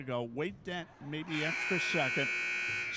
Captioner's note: buzzer sounding